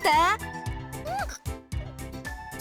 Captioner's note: frustrated groan